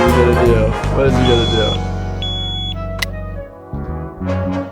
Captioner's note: alarm beeps